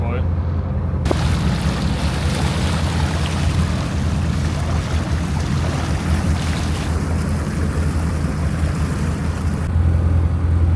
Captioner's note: engine noise